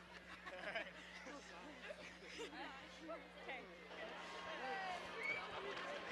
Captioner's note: indistinct overlapping chatter